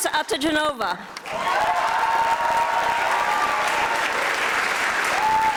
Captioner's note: audience applauding